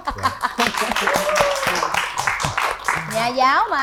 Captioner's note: applause